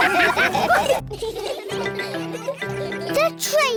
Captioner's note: laughter